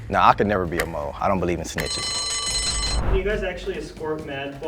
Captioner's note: bell rings